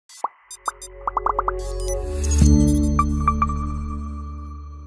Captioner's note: electronic beeping